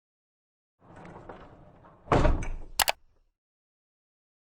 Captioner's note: vault closing